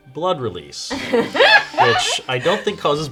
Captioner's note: laughing